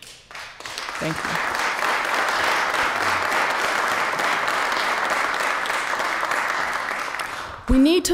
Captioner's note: applause